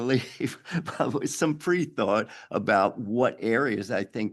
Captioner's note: chuckles